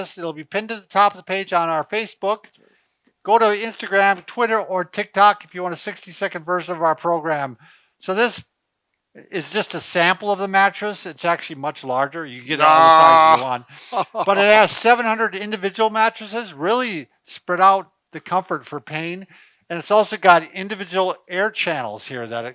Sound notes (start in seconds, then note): 12.5 laughs